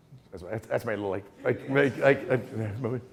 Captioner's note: murmuring